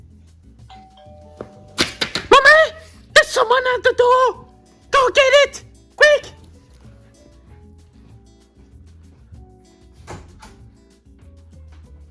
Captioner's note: doorbell rings